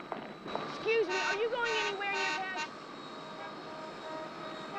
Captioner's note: horn Honking